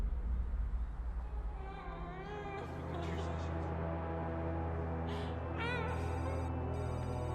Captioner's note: tense music; woman moaning